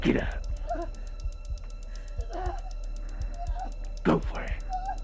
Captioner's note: Sue groaning